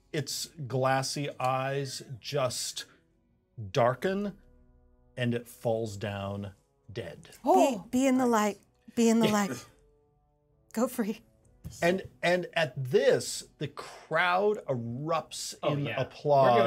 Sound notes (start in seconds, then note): 9.2 speaker chuckles